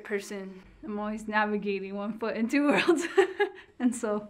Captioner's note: laughs